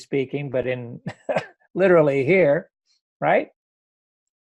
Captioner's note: laughs